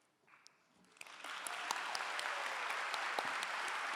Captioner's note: clapping